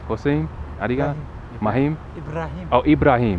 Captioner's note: somali